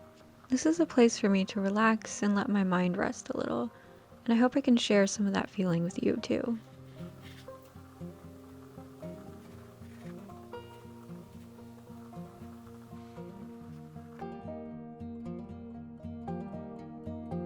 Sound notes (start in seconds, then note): 7.2 marker scraping; 14.2 calming music